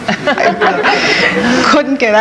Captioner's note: women laughing